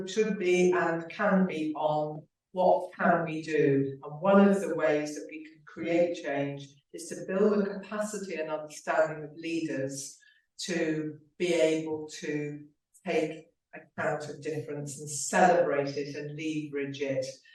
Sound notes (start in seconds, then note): none